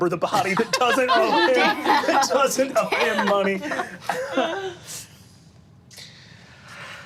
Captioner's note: group laughing